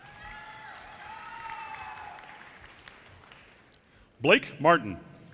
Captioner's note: audience cheers and applause